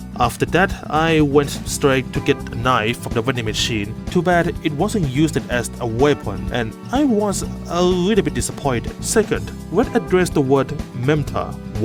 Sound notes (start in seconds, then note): none